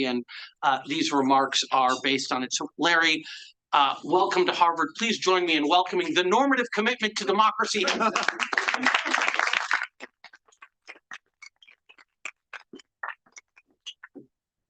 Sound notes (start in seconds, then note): 7.8 audience applauding